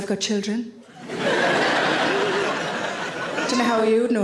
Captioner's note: audience laughing